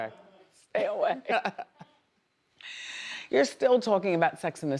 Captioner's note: laughs